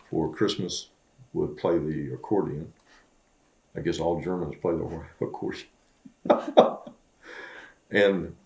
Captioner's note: laughs